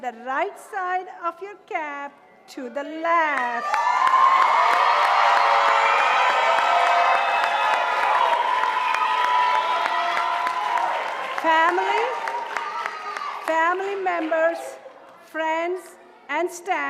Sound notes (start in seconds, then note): 3.6 audience cheering and applauding